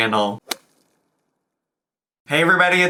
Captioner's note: logo thuds